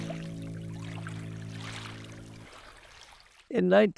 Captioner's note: music fades; water churns